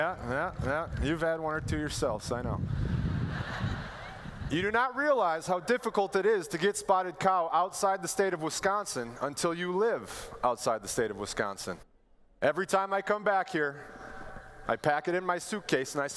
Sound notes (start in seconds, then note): 2.8 laughter